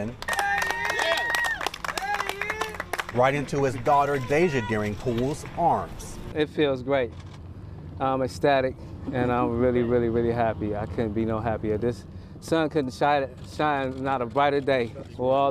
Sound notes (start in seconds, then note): 3.4 applause